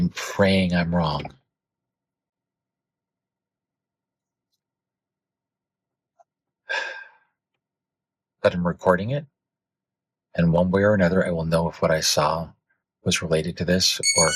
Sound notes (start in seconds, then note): 4.5 sigh